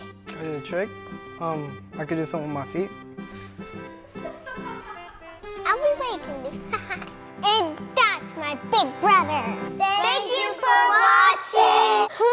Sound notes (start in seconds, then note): 3.8 laughs